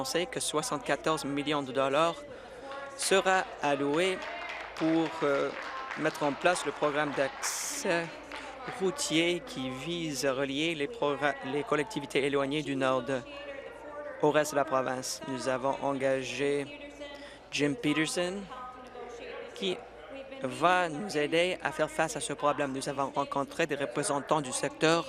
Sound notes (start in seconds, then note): 8.3 applause